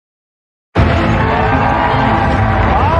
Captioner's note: cheering and applause